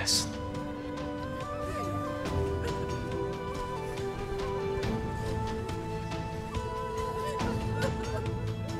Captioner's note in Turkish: Ağlama sesleri